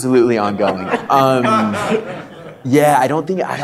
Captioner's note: audience laughter